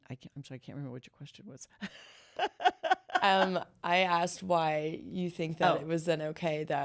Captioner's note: laughter